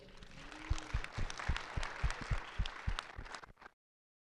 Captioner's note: audience applauds